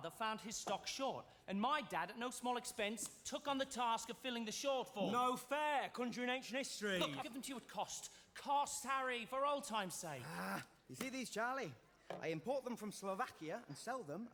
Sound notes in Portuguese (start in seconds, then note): 10.5 groan